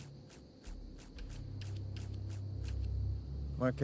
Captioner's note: scissors cutting